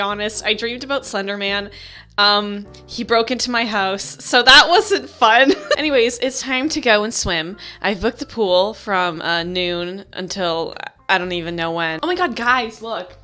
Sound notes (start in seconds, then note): 5.4 giggles; 10.4 stammers